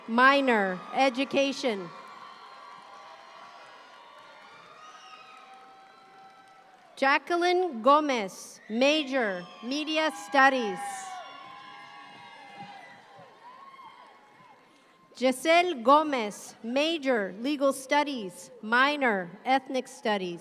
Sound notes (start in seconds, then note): 2.3 audience cheering; 11.5 audience cheer